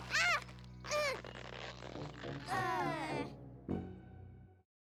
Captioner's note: all groan